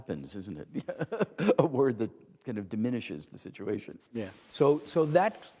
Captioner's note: chuckle